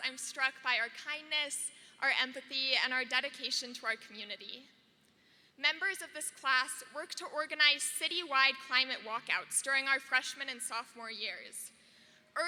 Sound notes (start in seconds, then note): none